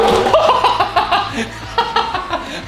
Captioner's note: cackling